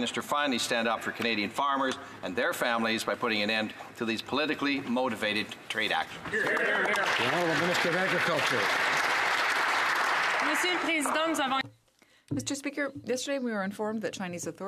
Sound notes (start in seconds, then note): 9.5 some Applause